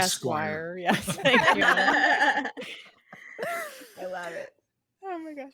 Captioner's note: all laughing